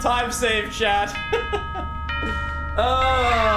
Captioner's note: laughs